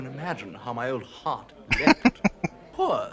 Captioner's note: chuckling